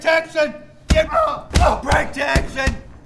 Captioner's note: grunting